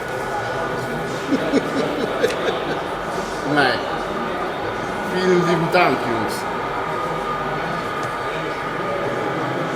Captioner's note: laughs